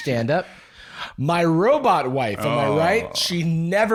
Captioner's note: exasperated